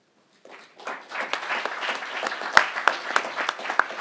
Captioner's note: crowd applauding